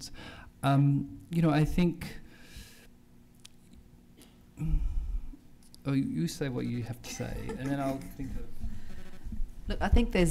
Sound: laughter

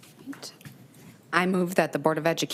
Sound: faintly speaks

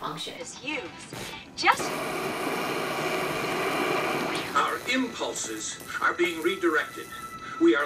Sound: TV ad cuts away to static

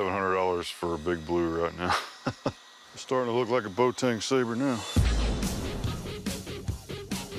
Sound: chuckles

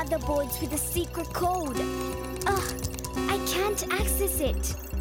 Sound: chiming

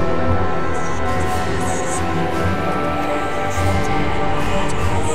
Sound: ghostly whispers

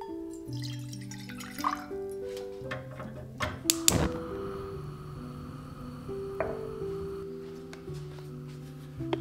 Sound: water pours into pan, gas stove ignites

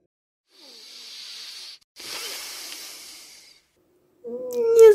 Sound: deep breath

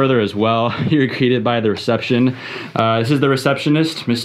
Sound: chuckling

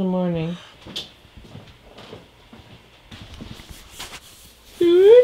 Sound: footsteps down hall

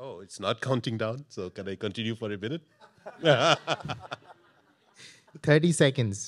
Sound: chuckles

